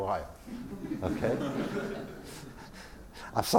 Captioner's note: laugh